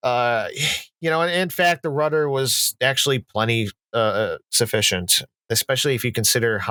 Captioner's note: quick breath out